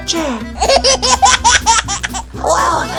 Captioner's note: laughs loudly